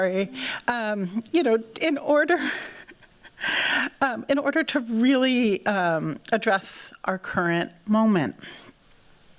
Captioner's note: laughs